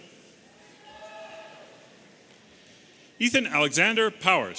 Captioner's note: audience cheering